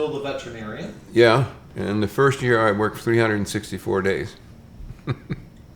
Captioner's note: chuckles